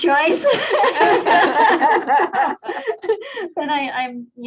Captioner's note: laughs loudly